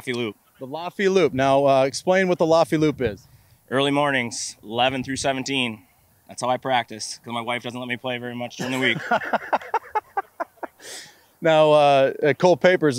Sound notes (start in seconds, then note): 8.5 laughs